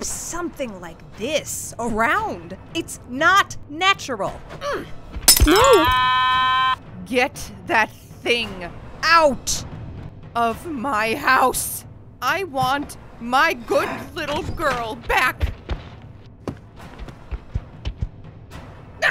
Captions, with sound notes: something like this around. It's NOT NATURAL No! (Egg screams) Get that thing out of my house! I want my good little girl back!